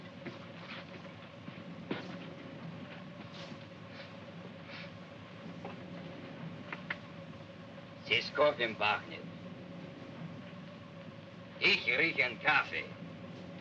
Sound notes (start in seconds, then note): 4.6 sniffing; 8.0 speaking in Russian; 11.5 speaking in Russian